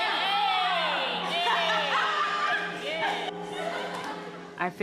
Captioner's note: laughter